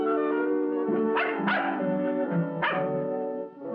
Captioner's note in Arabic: نباح الكلب